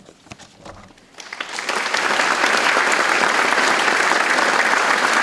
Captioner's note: audience applauds